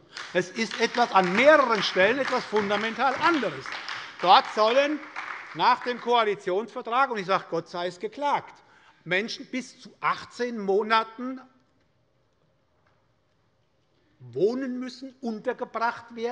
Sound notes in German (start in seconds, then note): 3.5 Beifall bei der SPD